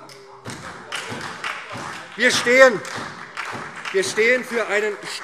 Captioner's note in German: Beifall SPD - Lachen und Zurufe CDU